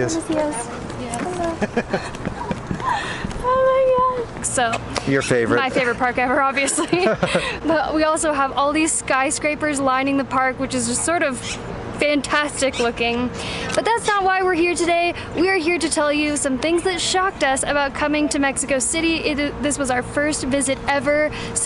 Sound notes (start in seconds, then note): 1.4 chuckles; 5.6 both laugh